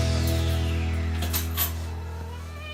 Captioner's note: key dropped; meows